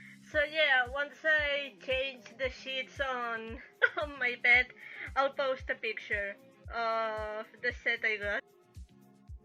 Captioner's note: chuckles